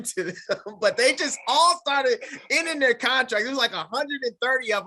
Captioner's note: laughs